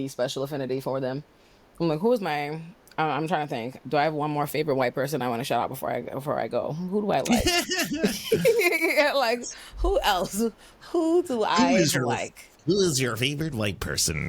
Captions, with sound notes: special affinity for them. Who is my-- I'm trying to think. Do I have one more favorite white person I want to shout out before I go? Who do I like? [LAUGHTER] Like, who else? Who do I like? Who is your favorite white person?